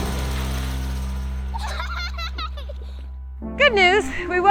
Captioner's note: kid laughter